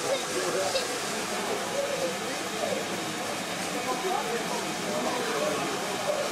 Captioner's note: indistinct chatter